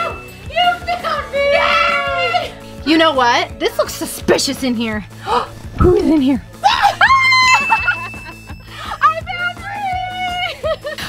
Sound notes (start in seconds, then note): 6.6 exclaiming; 7.8 laughing